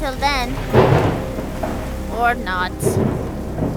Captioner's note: thunder booms